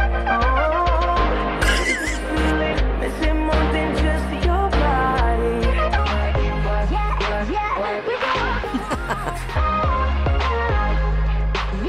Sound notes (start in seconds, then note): 1.6 wheezy laughter; 2.7 sped up; 8.6 laughing